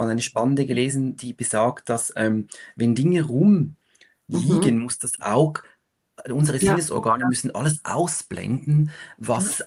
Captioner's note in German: räuspern